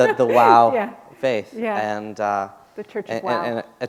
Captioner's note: chuckle